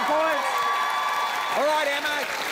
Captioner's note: cheering, applause